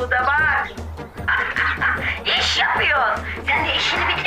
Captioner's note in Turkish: Gülme sesi